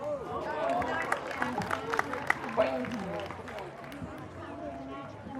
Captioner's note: audience applause